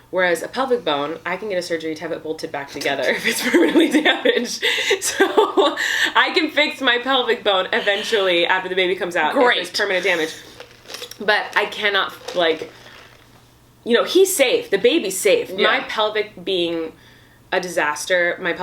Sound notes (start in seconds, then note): 3.0 laughs